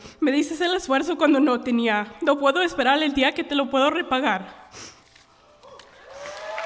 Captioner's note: speaking spanish; applause